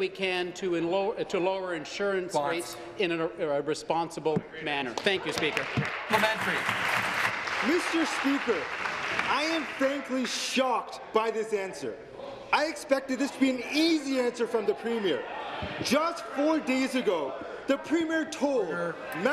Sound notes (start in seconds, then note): 9.7 applause